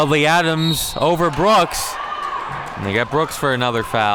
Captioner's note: whistle blows